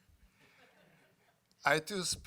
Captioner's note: laughter